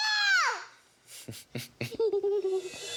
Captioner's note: laughs